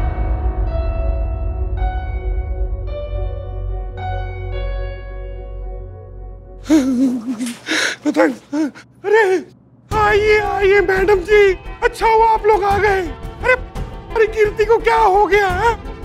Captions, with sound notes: [whimpering] Please come, madam. I'm glad that you are here. What happened to Kirti?